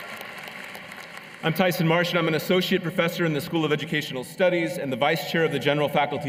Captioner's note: cheers and applause